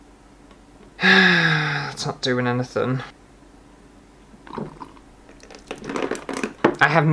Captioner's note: sigh